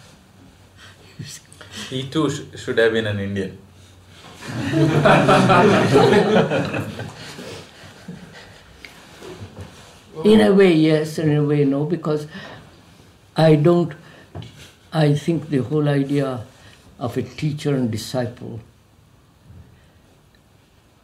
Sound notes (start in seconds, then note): 4.4 laughter